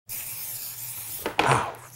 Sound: aerosol spray

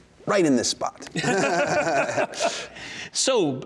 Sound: laughing

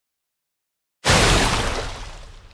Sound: splash

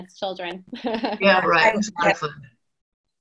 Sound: laughing

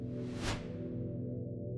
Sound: swooshes

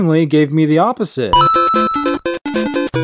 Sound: Coin collecting sound from Super Mario Bros

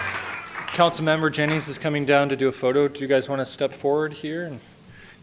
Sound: applause

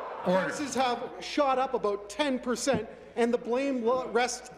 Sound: none

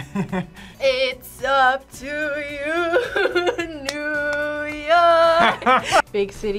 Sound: laughs; laughs

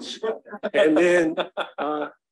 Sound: laughing

